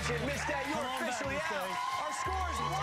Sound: cheers and applause

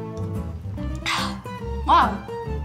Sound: drinks

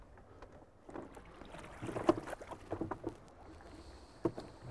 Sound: water lapping

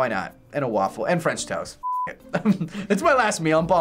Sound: laughing

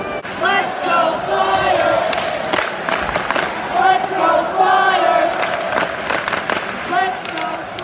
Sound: clap clap clapclapclap

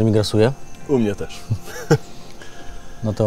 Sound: laughing

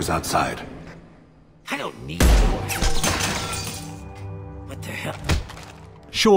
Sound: gunshot

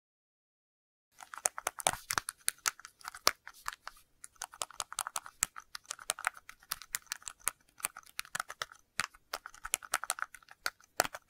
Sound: sound of typing

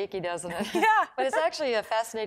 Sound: chuckling

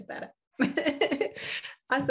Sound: chuckles

